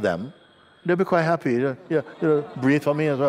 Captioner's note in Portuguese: Risos